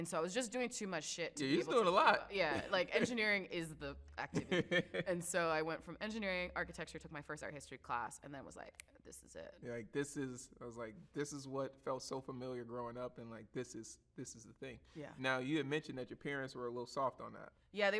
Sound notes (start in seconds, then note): 2.5 chuckles; 4.3 laughs; 8.9 snaps